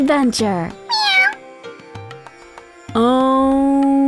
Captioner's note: meowing